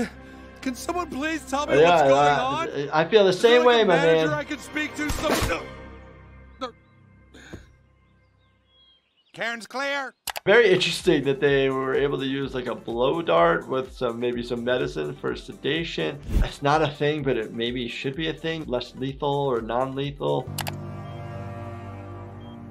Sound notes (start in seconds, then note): 5.1 tranquilizer dart discharging; 20.5 background mouse clicking